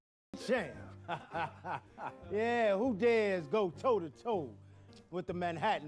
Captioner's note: laughing